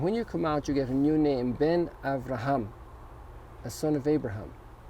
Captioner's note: foreign language